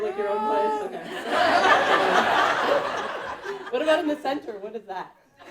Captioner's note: audience laughing